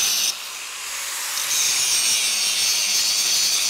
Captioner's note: grinder whirring